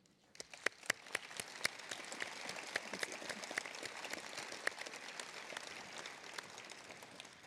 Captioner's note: applause